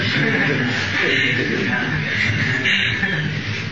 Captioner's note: laughter